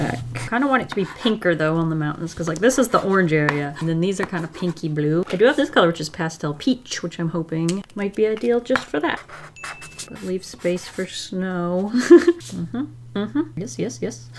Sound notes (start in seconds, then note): 11.8 laughs